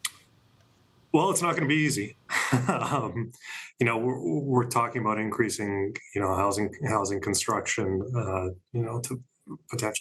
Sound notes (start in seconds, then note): 2.4 laughs